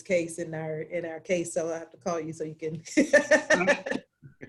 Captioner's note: laughs